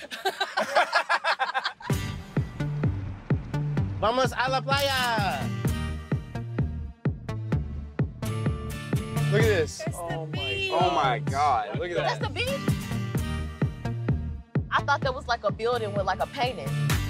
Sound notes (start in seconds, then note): 0.0 laughter; 2.1 fun, upbeat music; 2.1 speaking foreign language